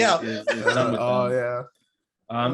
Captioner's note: laughing